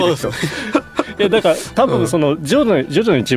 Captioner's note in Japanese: 笑い